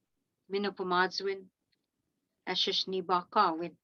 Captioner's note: speaking in Algonquin language